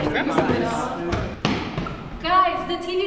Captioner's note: loud footsteps approaching